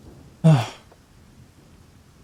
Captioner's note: sighs